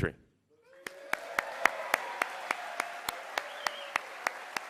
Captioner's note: cheering and applause